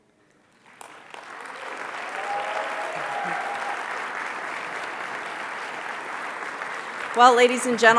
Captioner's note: applause